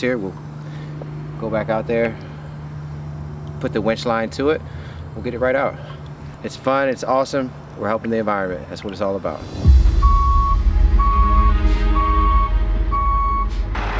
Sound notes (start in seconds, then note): 9.9 truck beeping